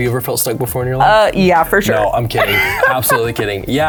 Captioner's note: laughs